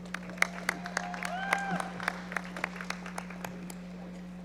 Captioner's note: audience applauding